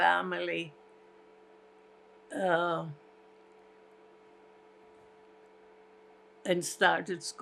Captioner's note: pauses 6 seconds